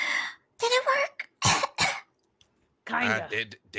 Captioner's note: coughs